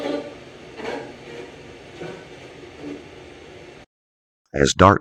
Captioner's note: light machine noise